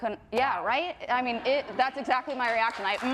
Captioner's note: audience laughs and claps